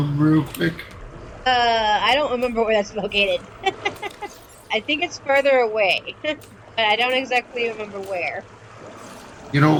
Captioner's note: laughter